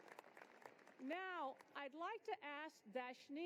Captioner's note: applause